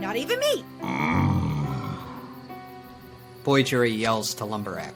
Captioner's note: gentle music; Lumber Axe groaning